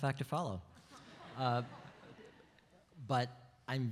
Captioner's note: audience laughs